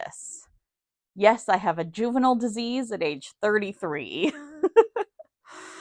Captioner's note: giggle